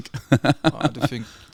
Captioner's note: laughs